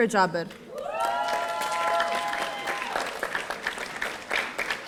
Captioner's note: audience cheering